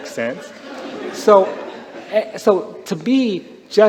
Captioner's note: laughter